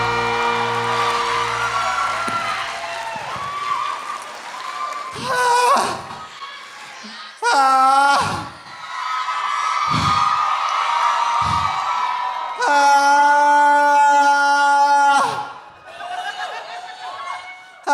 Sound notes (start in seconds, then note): 5.5 Trixie screams; 8.4 audience cheering; 12.6 Trixie screams; 15.7 audience cheering; 15.8 audience laughing